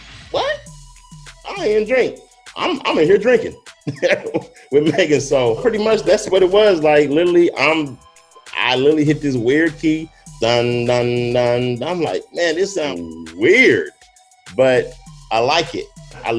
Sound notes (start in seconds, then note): 3.8 chuckles; 10.3 imitates keyboard notes